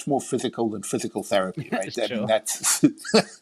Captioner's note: laughing